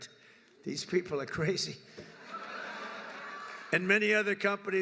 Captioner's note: laughter